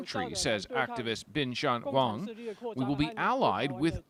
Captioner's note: speaking alternate language